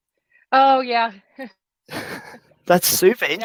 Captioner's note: both chuckle